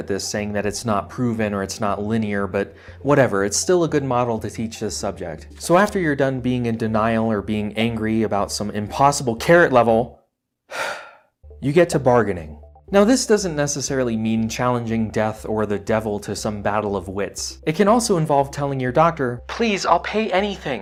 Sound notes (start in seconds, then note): 10.7 huff